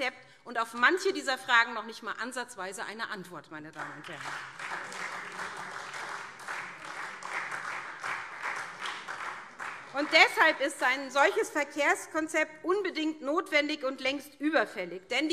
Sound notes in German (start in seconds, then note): 3.7 Beifall SPD